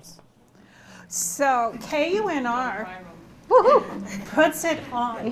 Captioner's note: woo-hoo